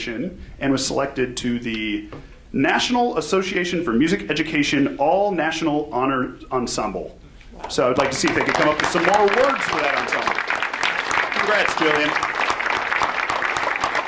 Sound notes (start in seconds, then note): 10.6 audience applauds